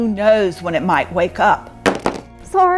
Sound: object hitting floor

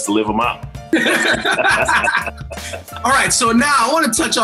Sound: all laughing

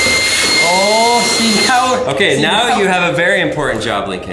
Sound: vacuum sucking

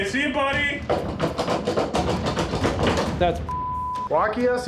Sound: rattling lock

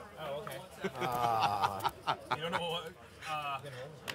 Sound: laughing

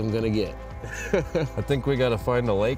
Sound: chuckles

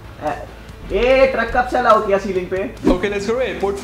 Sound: speaking foreign language

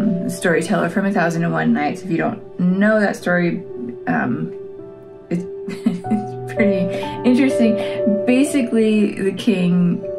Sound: laugh

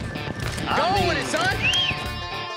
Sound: whistling

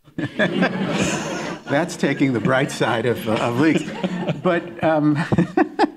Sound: laughing

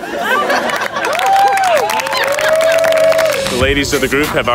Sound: crowd cheering

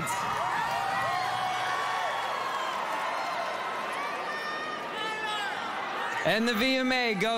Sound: cheering

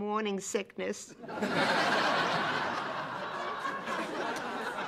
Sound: laughter

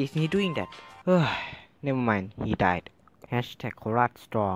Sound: sigh

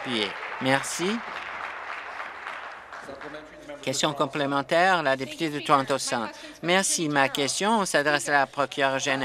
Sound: applause

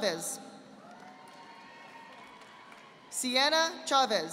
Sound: audience applauding

